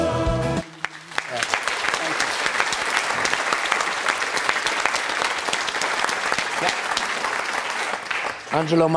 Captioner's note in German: Applaus